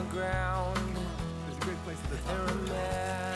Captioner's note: chatting happily